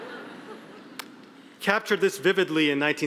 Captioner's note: audience laughing